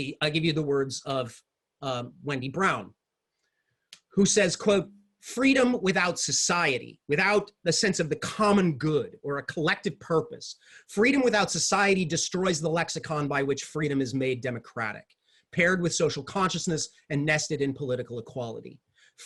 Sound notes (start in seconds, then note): none